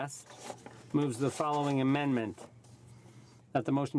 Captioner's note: speaking French